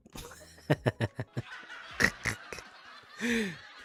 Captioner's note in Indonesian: tertawa